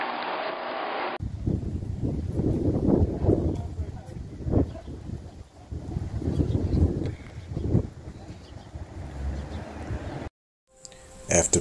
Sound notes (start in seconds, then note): 0.6 wind rustling; 1.3 people chattering; 8.2 air whooshing